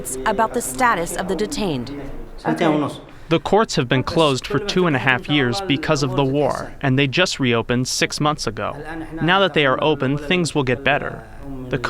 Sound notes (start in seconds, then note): 2.8 through translator